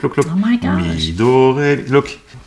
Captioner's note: humming